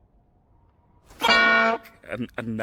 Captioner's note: bonk!